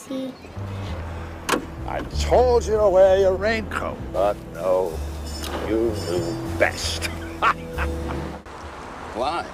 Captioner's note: laughs